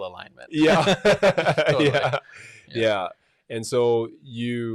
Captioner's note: laughing